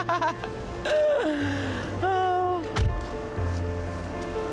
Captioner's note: chuckles